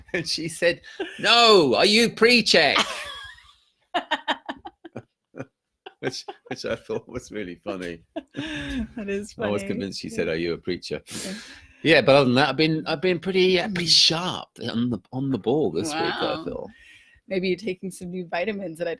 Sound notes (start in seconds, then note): 2.9 both laughing